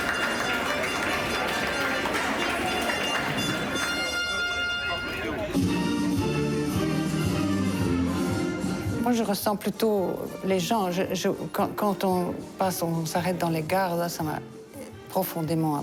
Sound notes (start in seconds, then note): 8.7 speaking foreign language